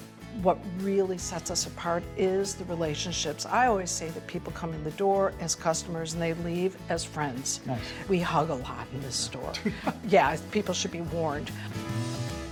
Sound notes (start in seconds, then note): 9.5 laughs